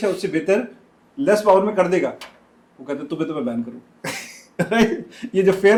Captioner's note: laughter